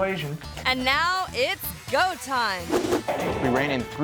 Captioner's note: screen whooshes